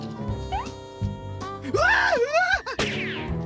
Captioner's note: screaming